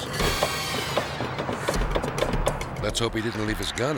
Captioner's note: door handle clicking